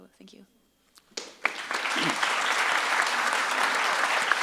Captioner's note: audience claps